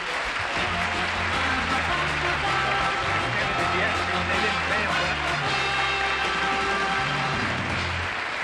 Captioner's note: applause